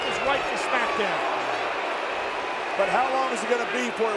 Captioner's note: crowd booing